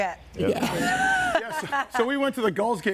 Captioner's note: all laughing